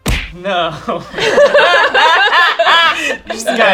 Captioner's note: laughing